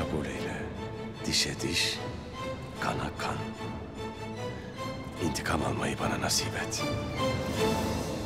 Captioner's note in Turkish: Ertuğrul iç ses